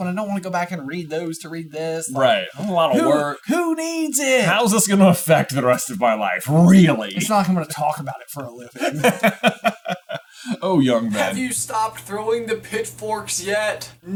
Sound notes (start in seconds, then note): 9.3 laughing